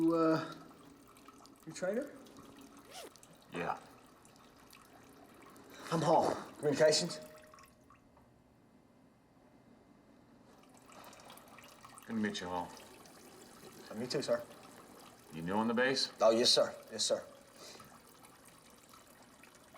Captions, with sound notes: - You, uh, you're Trainor? (zipper rasps) - Yeah. - I'm Hall. Communications. (urine sloshing) - Good to meet you, Hall. - Me too, sir. - You're new on the base? - Uh, yes, sir, yes, sir.